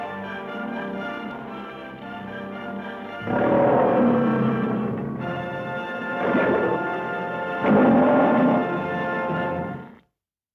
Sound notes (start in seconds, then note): 3.2 lion roaring